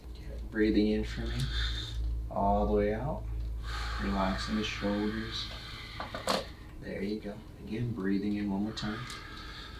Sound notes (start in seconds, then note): 3.6 patient exhaling